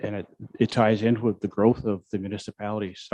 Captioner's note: none